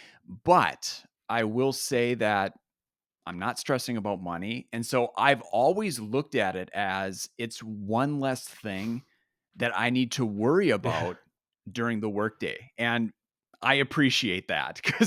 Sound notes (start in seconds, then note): 10.9 chuckles